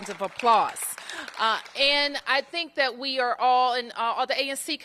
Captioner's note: applause